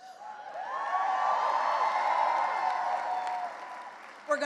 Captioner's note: cheering and applause